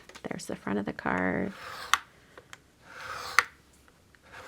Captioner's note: blade cutting